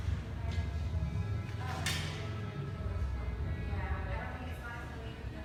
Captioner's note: chatting in the background